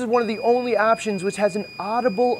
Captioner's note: machine beeps